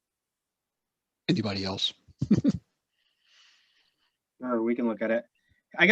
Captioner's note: chuckles